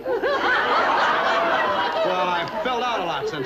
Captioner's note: loud laughter